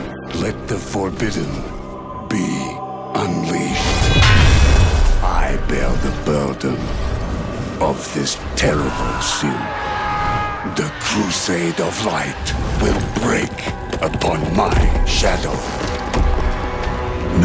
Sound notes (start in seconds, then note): 3.8 metallic clang; 8.6 soldiers yelling